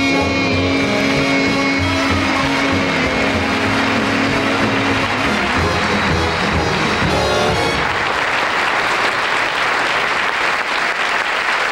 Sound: audience applauding

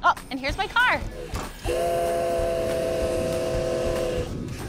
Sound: train whistle

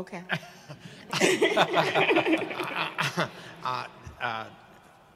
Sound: audience laughing

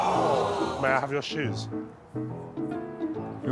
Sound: audience gasps

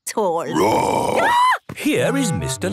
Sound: roar, scream

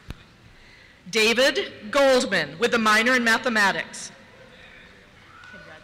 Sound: cheers

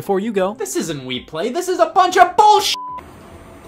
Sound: beep

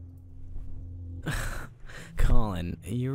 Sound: scoffs

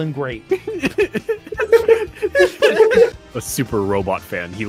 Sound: laughter

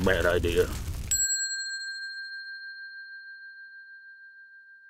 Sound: bell dinging

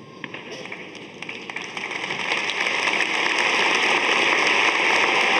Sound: audience applauding

